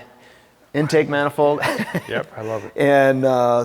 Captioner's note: laughing